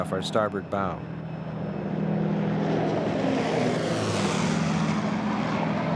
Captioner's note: airplane engine whirring